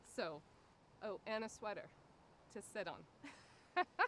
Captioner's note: laughing